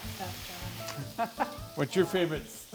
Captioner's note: laughs